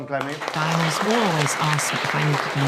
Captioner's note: applause